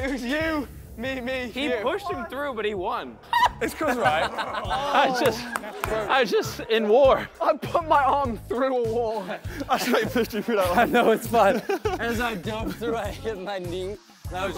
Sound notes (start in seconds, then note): 3.2 contestant laughing; 5.5 contestants laughing and clapping